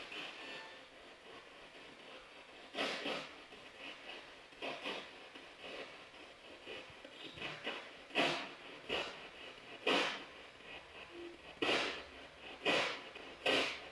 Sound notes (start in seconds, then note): 0.6 noise of the spiritbox in the background